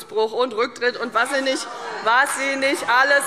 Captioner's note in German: Demonstrativer Beifall